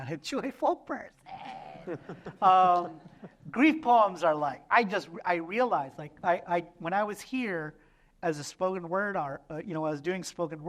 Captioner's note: laughter